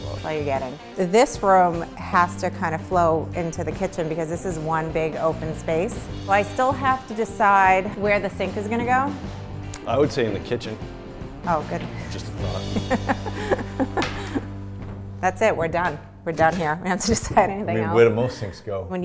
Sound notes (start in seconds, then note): 12.6 laughs